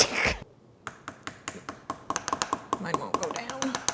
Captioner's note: bottles tapping